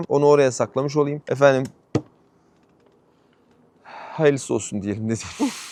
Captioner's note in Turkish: iç çeker